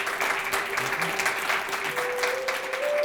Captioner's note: applause